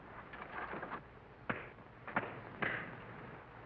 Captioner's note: punches cracking